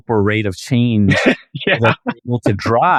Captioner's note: laughing